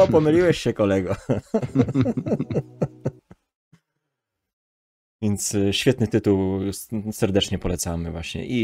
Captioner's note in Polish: śmiech